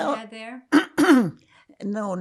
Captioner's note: clears throat